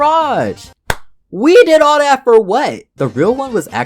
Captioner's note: smack